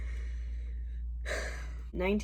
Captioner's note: deep, self-reflective sigh